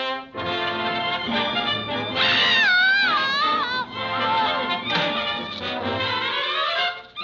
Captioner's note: lively music; Olive screaming